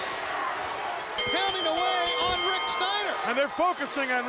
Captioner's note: bell ringing